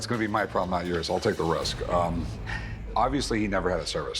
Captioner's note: chuckles